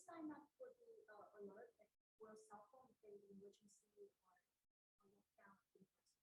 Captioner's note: voice muffling